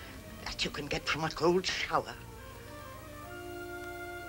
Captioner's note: scoffs